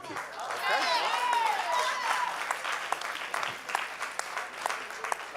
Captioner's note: audience cheers and applauds